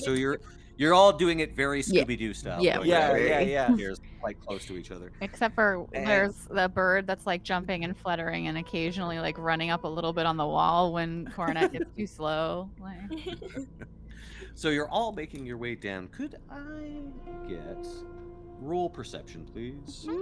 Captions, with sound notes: - So you're all doing it very Scooby-Doo style. - Yeah, yeah. - Yeah, yeah, yeah. - They're quite close to each other. - Except for there's the bird that's like jumping and fluttering, and occasionally like running up a little bit on the wall when Cornette gets too slow like. (Cornette laughs) (Calla laughs) - So you're all making your way down. Could I get role perception, please?